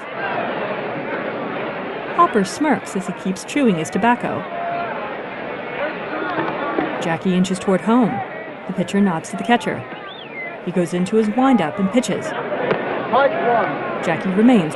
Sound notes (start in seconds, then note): 0.9 rising crowd noise